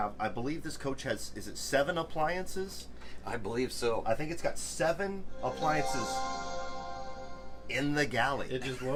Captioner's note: computer startup sound